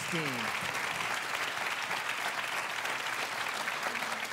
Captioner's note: applause